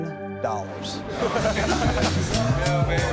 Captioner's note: contestants laughing